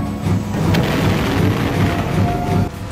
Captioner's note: warp engines accelerate